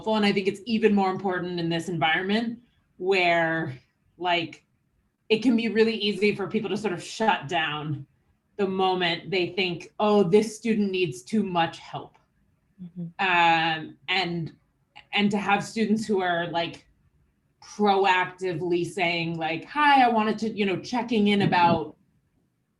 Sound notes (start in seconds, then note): 12.8 mic cutting out